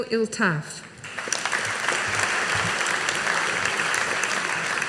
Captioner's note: audience applauding